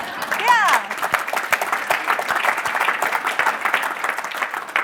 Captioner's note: applauding